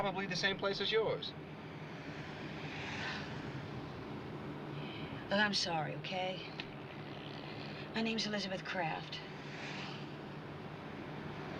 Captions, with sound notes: Probably the same place as yours. [ Sighs ] Well, I'm sorry, okay? My name's Elizabeth Kraft.